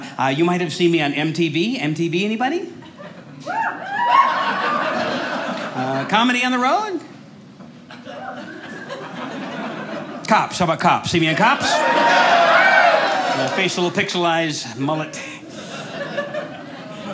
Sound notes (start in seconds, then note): 3.5 audience cheers; 7.9 audience laughing; 11.5 audience cheers; 15.4 audience laughing